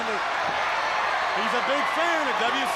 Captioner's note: crowd cheering